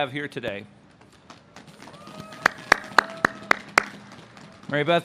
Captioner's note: audience claps